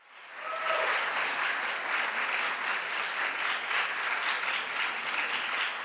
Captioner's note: audience applauding and cheering